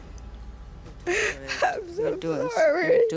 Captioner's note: sobbing